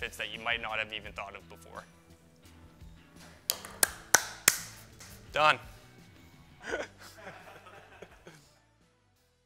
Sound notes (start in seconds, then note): 3.5 claps; 6.6 laughs